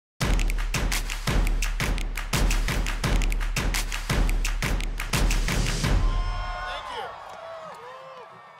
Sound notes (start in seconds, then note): 0.2 upbeat music; 5.8 crowd cheering